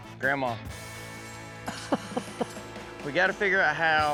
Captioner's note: grandma chuckling